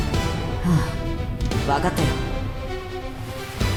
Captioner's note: sigh